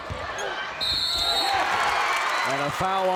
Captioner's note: crowd cheers; whistle blows